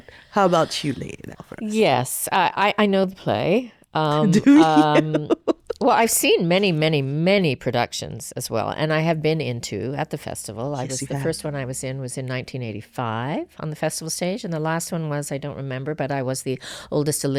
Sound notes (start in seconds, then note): 4.1 laughs